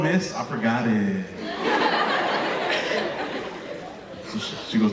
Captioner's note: audience laughing